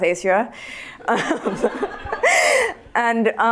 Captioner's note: laughter